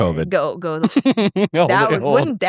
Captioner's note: both laughing